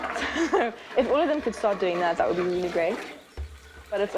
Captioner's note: chuckles